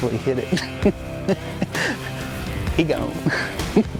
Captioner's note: laughs